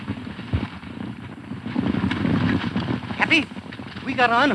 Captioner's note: galloping hooves